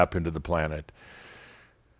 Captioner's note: none